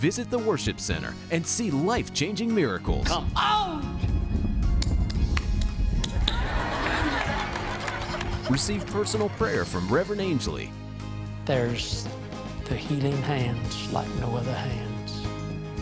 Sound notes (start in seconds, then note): 4.7 hands clapping; 6.2 laughter